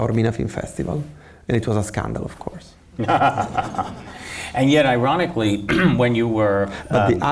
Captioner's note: laughs